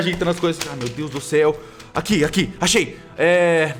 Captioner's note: paper noises